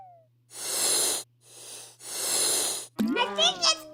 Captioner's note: inflating balloon noises